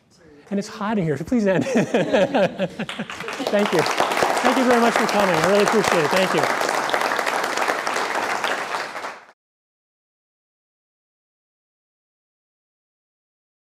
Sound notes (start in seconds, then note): 1.5 laughs; 5.8 applause